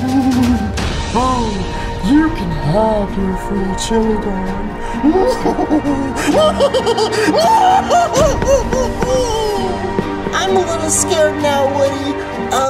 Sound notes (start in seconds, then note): 0.2 chuckles; 5.0 hysterically laughing